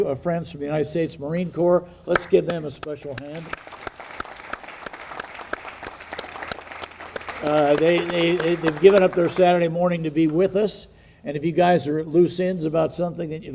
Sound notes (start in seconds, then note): 3.1 audience applauding